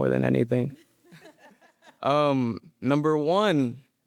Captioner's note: audience laughing